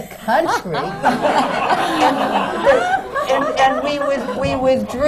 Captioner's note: laughter